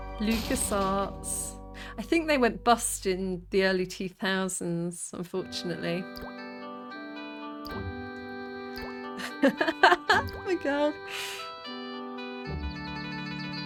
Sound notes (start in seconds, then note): 9.2 laughing